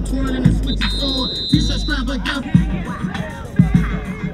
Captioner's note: whistle blowing